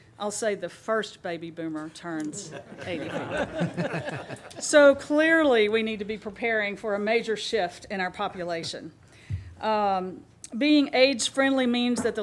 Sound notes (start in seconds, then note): 2.4 laughing